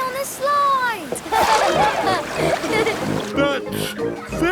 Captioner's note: laughing